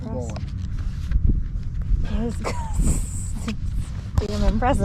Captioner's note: chuckles